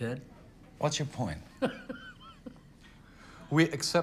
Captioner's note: Anderson laughs